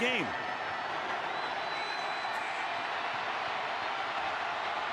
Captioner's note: cheering